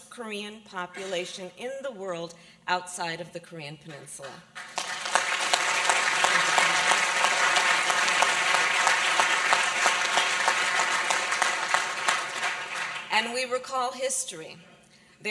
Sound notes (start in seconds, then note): 9.9 applause